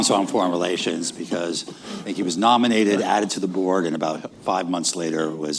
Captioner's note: laughter